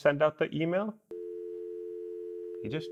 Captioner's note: dial tone